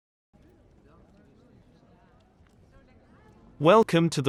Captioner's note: people chattering